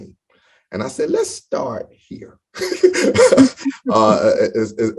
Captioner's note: laughs